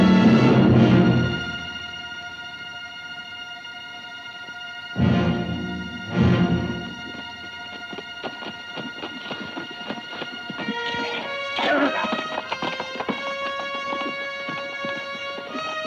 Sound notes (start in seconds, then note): 11.4 Delgadito speaking foreign language; 13.0 dramatic music